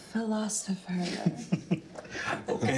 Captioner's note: all laughing